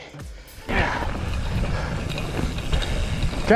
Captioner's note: pants